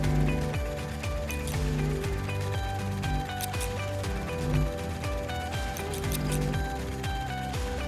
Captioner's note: bulb buzzing; upbeat music; scissors snipping; upbeat music